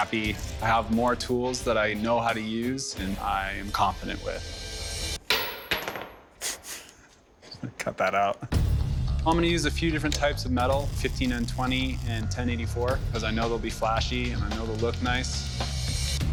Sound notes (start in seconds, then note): 5.2 hammer head clatters; 7.4 snickers